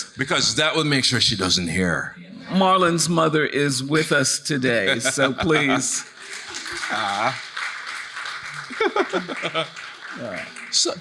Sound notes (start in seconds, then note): 6.1 audience laughing; 8.7 chuckling